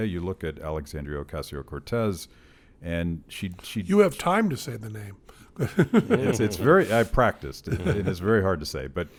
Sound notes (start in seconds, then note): 5.6 chuckles